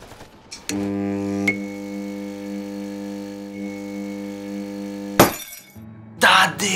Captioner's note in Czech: bzučení žárovky